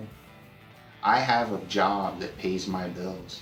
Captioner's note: none